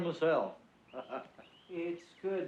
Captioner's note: laughs